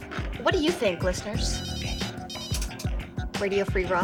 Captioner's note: phone rings